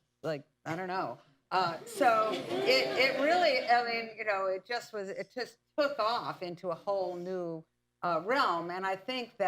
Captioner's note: laughter